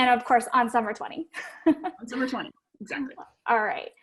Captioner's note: laugh